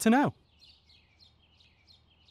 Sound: silence

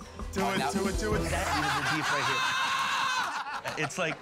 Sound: laughing

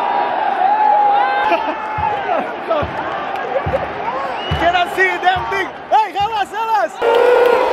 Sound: clap

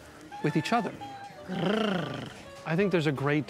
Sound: purrs

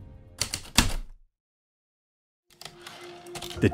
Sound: typewriter keystrokes, return slide

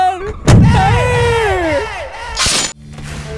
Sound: screaming

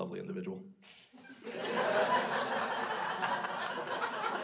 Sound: crowd laughs

